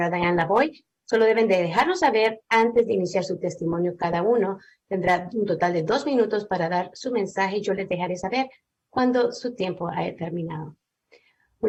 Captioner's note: speaking spanish